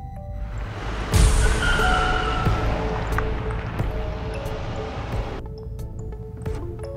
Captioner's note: intense music; tires screeching